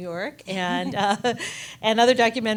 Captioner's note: chuckles